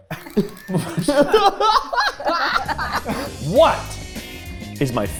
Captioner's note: group laughing